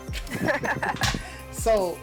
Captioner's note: laughing